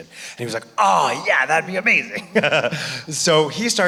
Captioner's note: laughing